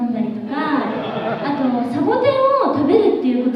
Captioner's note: laughs in Spanish